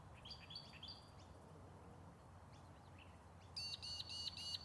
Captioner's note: birds chirping